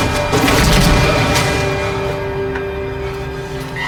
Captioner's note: Corey thuds